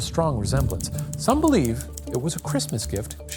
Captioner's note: typewriter clicking